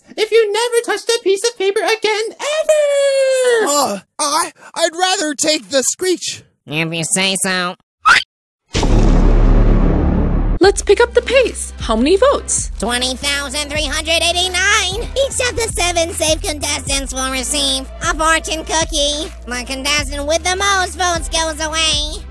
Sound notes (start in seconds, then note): 7.6 screech